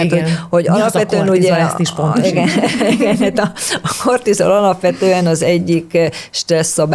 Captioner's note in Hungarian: nevetés